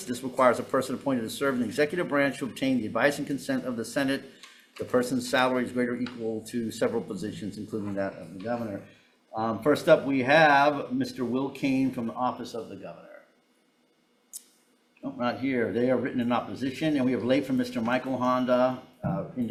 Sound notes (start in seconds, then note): none